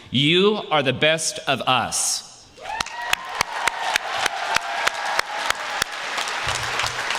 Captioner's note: applause